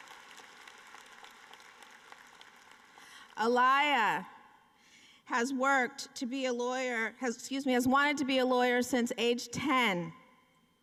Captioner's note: applause